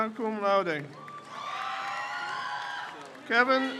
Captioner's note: crowd cheers